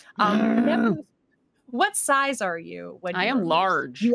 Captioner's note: Neb grunts